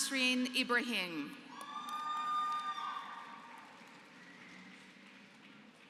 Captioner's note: applause